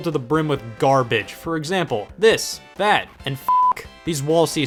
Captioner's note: beep